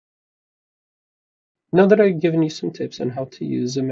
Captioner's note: none